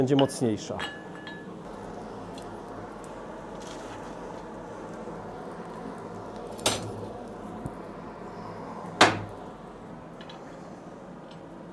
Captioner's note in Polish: szum paleniska